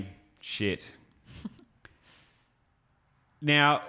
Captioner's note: chuckles